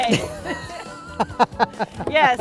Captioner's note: laughs